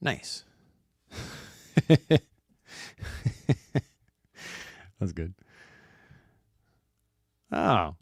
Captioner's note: laughs